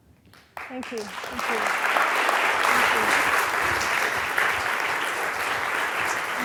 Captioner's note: applause